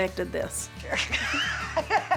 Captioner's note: laughter